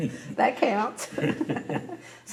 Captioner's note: laughter